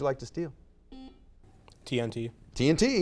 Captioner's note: buzzer beeps